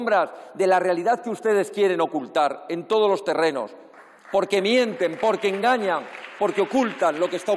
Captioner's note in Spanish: aplausos